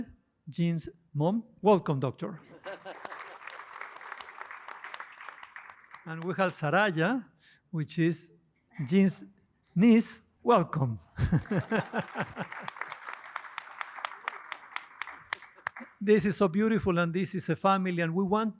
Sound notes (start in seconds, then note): 2.4 laughter; 2.7 applause; 11.1 laughter; 11.4 applause